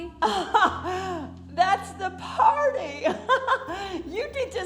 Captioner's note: laughs